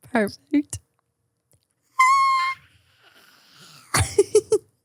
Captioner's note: person screaming